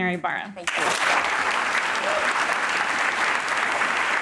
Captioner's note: applause